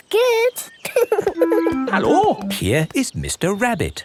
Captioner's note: laughing